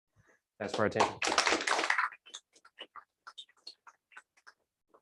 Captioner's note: applause